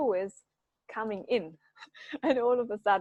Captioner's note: chuckles